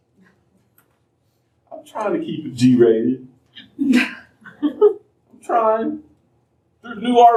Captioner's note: laughter